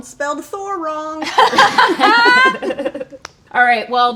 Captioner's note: laughing